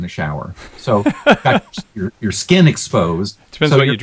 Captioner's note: laughs